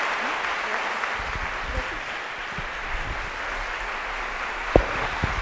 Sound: attendees applauding

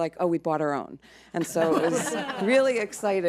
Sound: board laughs

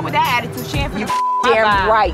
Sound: beep

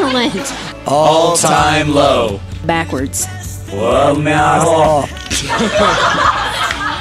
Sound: phrase plays backwards; laughter

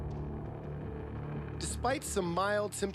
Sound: voiceover

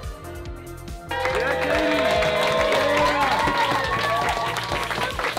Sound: gentle music; cheers and claps

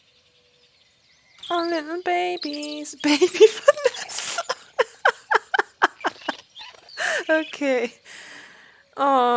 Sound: laughs

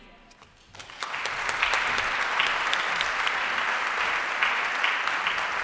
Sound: applause

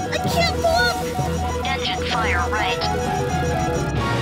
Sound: computer voice

